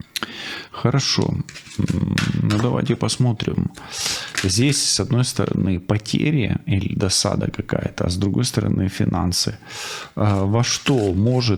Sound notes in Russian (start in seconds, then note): 1.7 фыркает